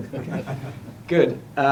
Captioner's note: laughter